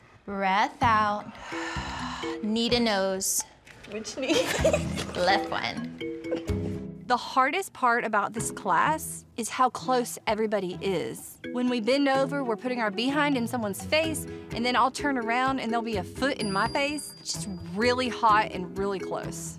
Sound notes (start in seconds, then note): 1.4 breathing out; 4.2 laughing